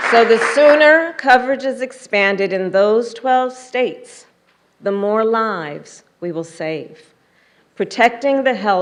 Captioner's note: applause